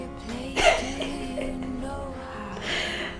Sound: chuckles

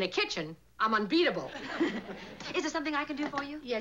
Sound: laughs

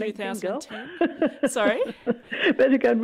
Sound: laughs

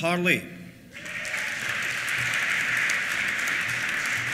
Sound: applause; cheers

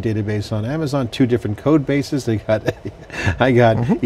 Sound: laughs

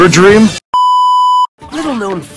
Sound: static sound beep

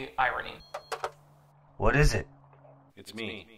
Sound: phone beeps

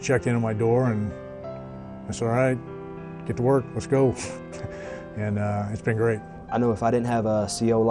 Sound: chuckles

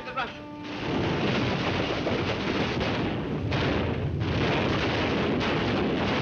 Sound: dramatic music; artillery booming

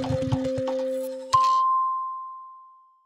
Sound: dinging

